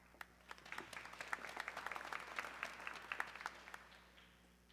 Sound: audience clapping

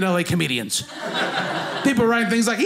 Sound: audience laughing

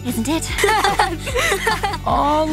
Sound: laughing

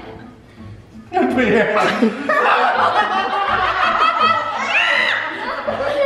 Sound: yelling; laughing

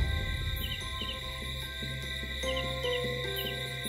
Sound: bells ringing

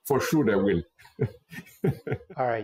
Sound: laughter

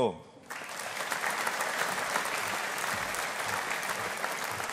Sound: audience applauding

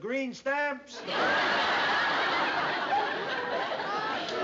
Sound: laughter

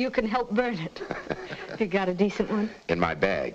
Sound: Joe laughs

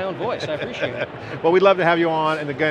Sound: laughing

